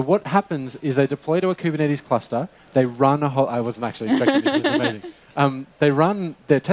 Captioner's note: chuckles